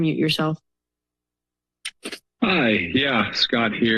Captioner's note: silence